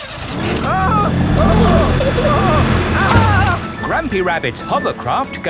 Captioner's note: grandpa screaming